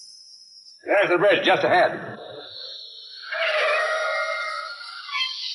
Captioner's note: tires squealing